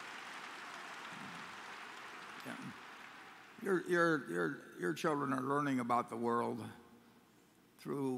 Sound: applause

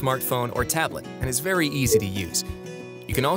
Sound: system beeping

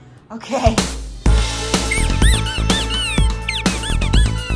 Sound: squeaking

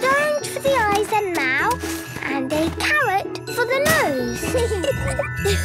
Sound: giggling; laughing

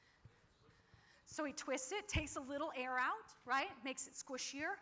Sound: none

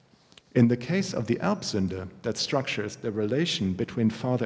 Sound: german

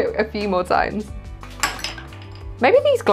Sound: ice hitting glass

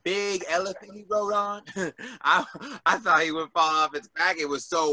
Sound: giggles

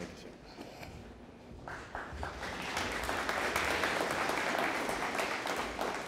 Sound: audience applauding

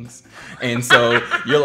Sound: laughing

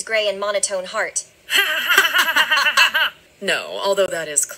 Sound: laughing

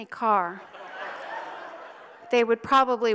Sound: audience laughs

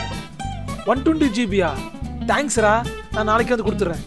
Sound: excited

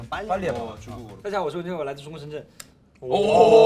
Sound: speaking rapidly; members exclaim in awe

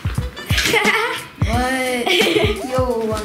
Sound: laughs

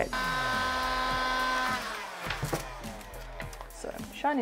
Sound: machine hums

